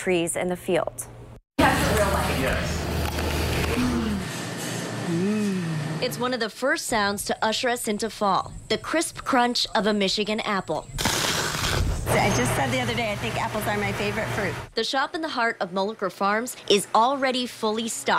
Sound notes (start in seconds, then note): 5.9 crunch, crunch, crunch